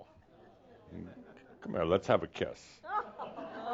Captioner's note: some laughter